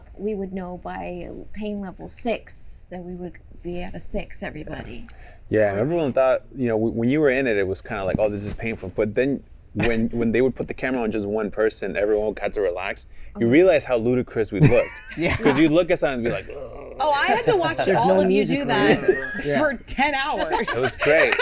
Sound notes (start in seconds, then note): 16.3 gurgling